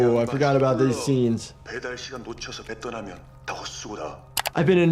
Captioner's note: man continues speaking in foreign language; mouse clicks